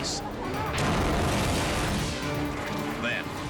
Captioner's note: explosion blasting